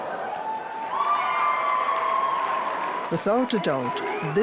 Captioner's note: crowd cheers and applauds